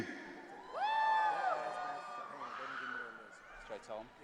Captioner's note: audience cheering